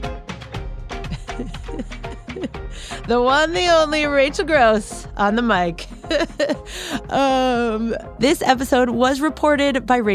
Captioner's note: laughs